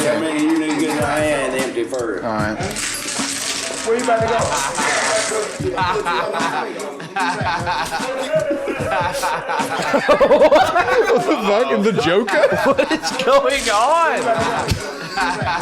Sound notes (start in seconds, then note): 0.1 laughing; 14.9 laughing